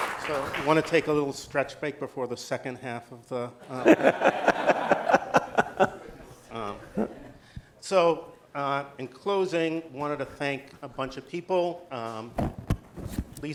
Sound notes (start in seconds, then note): 3.6 laughter